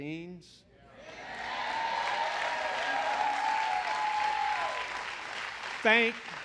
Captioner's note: applause